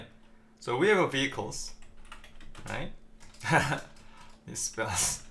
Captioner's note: chuckles